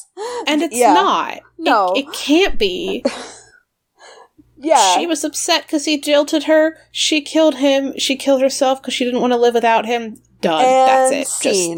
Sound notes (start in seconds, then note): 2.8 laughs